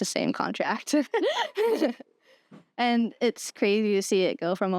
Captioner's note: laughter